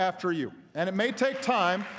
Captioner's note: applause